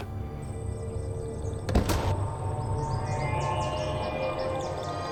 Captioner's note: door shuts